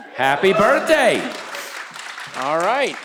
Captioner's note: audience cheering